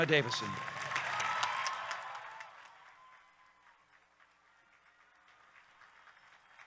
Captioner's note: audience cheering; audience clapping